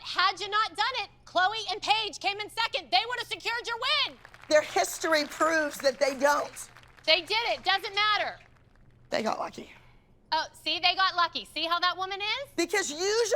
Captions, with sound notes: But you know what? Had you not done it-- Chloe and Paige came in second-- they would have secured your win. [APPLAUSE] Their history proves that they don't. They did it. It doesn't matter. They got lucky. Oh, see? They got lucky. See how that woman is?